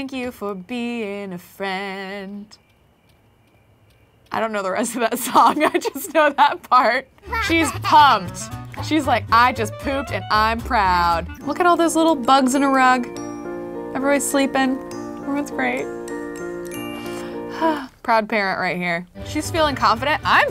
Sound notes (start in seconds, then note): 16.8 sighs